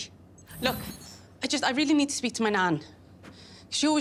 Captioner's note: electronic swoosh